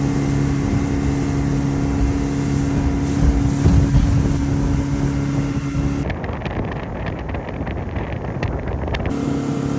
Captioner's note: engine sounds